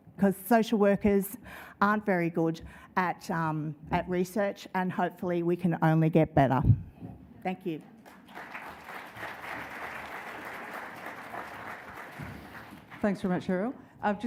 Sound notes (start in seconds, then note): 8.0 audience applause